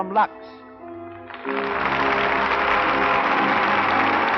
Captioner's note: applause